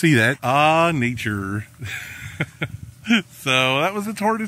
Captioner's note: laughing